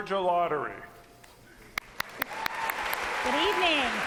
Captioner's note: applause